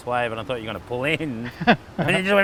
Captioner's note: laughs